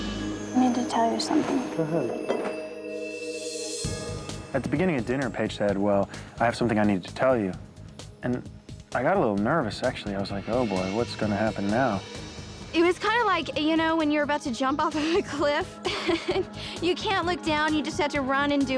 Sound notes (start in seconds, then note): 15.8 laughs